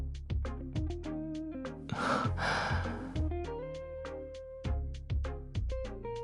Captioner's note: exhales sharply